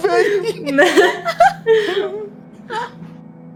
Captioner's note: everyone laughs